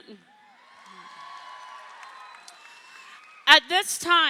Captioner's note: crowd cheering